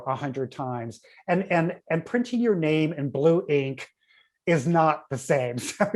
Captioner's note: laughs